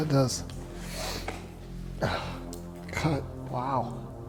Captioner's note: sniff; sob